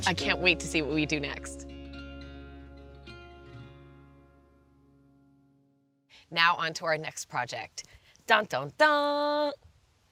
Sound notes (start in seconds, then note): 7.3 mimics fanfare